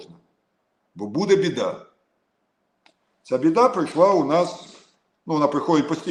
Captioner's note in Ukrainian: сопіння